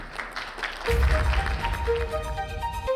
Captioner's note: audience applauds